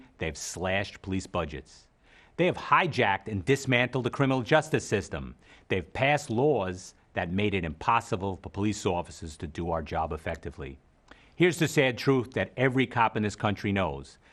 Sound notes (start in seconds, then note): none